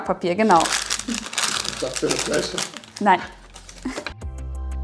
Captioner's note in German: kichert